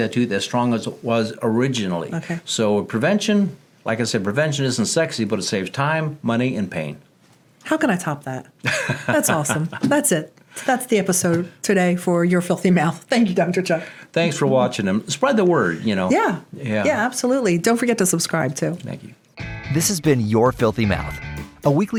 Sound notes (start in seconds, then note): 8.6 laughing